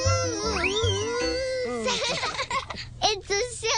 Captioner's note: laughing